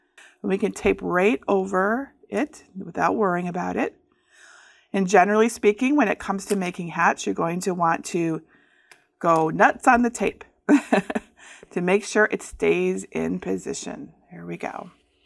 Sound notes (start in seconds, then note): 10.7 chuckles